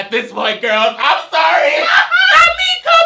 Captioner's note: laughs